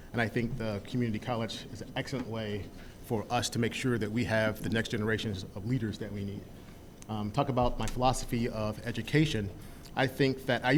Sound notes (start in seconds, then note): none